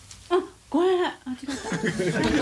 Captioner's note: staff members laughing